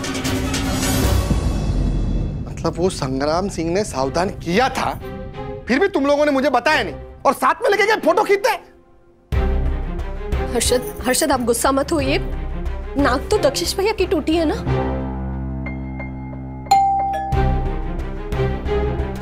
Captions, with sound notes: 'THE PRESENT DAY' You mean, Sangram Singh had warned you but you didn't tell me about it and took me along with you guys? Harshad, please don't be angry. It's Dakshesh's nose that has been broken, right? [bell dings]